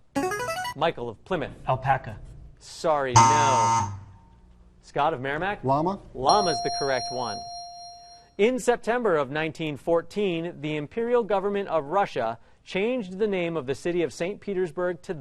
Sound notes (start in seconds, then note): 3.1 buzzer; 6.3 ding